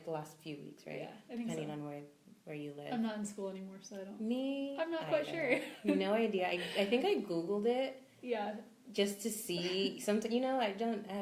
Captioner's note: laughs